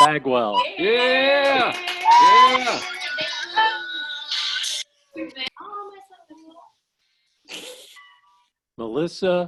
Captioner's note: cheering